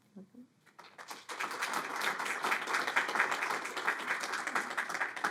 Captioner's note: audience applauding